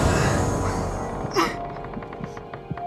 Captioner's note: Levine panting